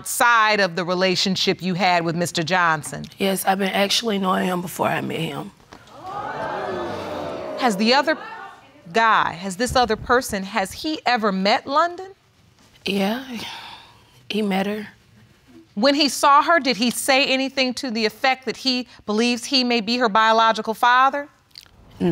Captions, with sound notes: outside of the relationship you had with Mr. Johnson? Yes, I've been actually knowing him before I met him. (AUDIENCE EXCLAIMING) Has the other guy, has this other person, has he ever met London? Yeah, he met her. When he saw her, did he say anything to the effect that he believes he may be her biological father?